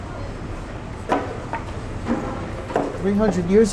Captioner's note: clunking